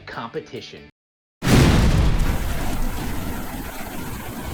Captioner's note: air whooshing